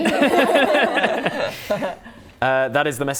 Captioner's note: laughing